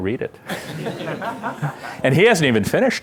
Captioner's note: laughter